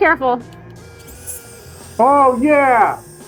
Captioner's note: heat gun whirring